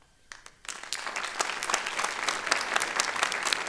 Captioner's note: applause